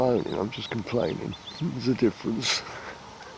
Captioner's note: laughing